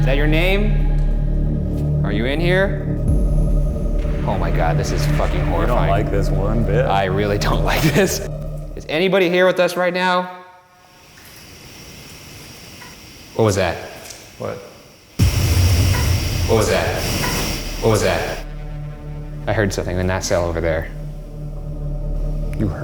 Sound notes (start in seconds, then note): 12.8 faint tapping; 15.7 faint tap; 21.7 faint whispering